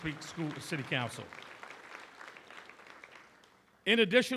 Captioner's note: applause